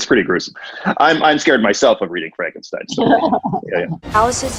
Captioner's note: laughing